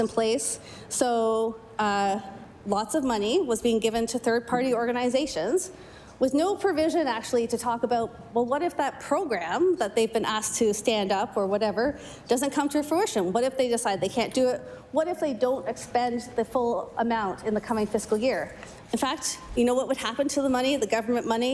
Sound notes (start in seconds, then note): none